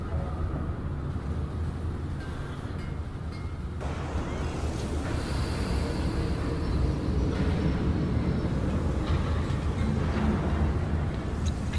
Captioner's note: beeps